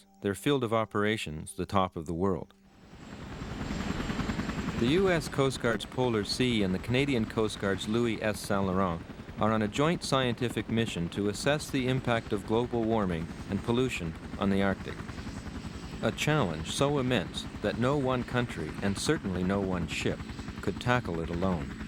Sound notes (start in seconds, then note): 2.9 helicopter engine roaring